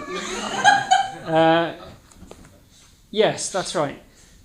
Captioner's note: audience laughing